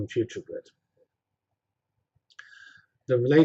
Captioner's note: pause